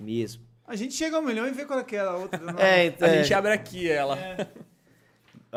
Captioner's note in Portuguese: risos